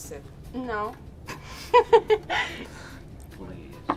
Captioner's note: interviewee laughs